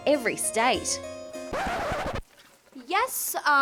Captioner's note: record scratch